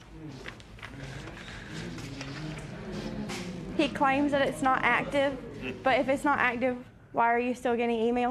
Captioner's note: spectators murmur